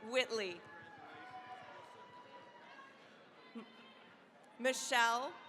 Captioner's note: cheering, applause